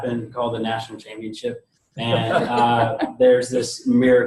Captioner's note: all laughing